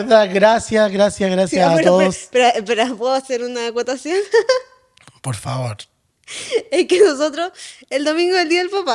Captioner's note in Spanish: risas